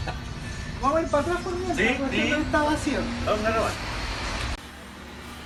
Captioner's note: laughs